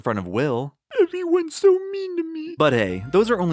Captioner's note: tearfully